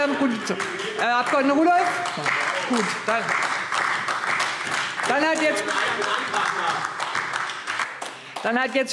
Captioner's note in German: Beifall AfD